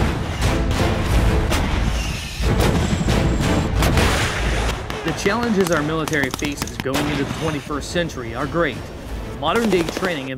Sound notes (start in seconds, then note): 5.2 gun fire